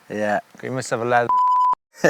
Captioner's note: beeps; laughs